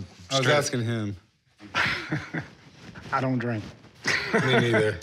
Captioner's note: laughs